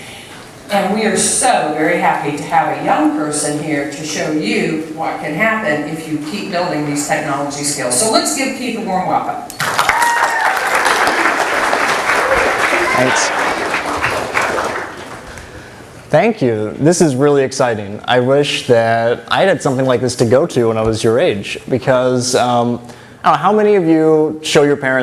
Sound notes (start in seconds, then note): 9.6 applause